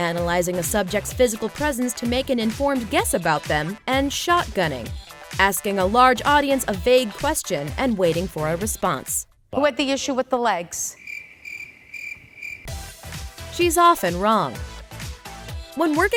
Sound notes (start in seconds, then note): 10.9 crickets